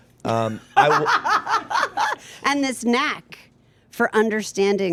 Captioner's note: laughing